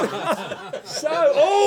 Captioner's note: laughter